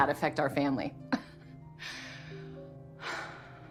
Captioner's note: laughs